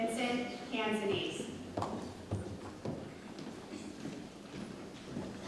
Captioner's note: shoes tapping